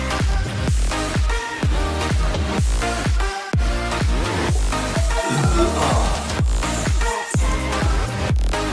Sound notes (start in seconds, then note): 3.0 timer goes off; 4.0 both hands on his stomach and burps and sighs